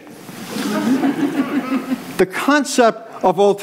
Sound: audience laughs

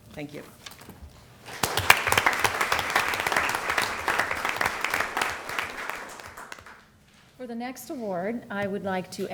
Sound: applause

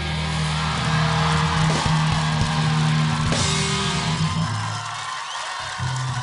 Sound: audience applauding and cheering

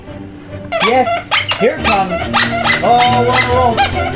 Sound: toy squeaking

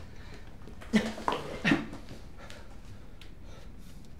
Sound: grunts

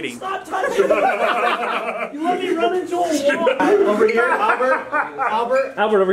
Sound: shouting, laughing

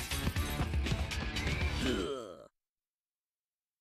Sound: Daffy grunting

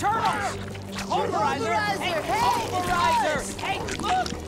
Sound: yelling

